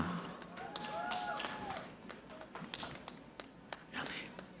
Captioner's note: audience clapping